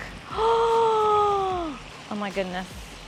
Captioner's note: gasps